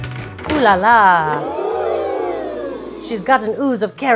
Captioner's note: upbeat music; crowd oohs